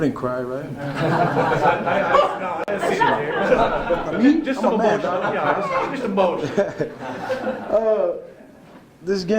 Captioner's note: laughter